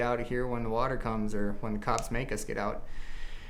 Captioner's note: none